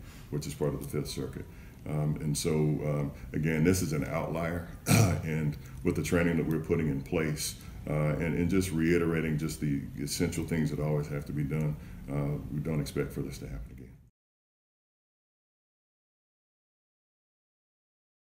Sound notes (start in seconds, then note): 4.8 cough